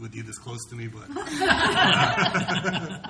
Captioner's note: laughter